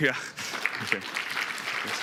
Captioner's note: applause